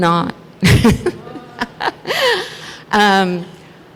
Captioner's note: laughs